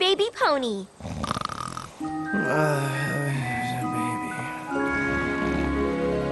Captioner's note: snoring